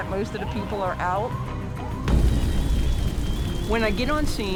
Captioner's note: fire roaring